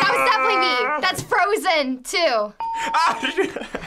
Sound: ding; laughs

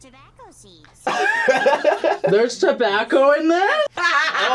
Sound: laughs; laughs

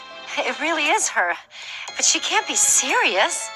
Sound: none

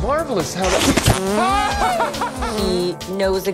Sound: tube sucks; Buddy laughs

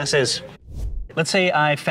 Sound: air swooshing

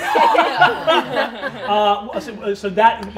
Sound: all laughing

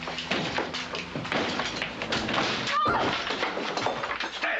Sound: loud, frantic knocking; loud smashing

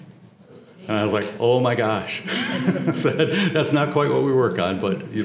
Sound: laugh

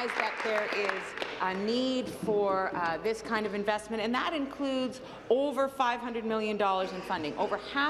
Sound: applause

